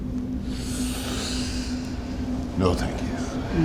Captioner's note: mayor inhales deeply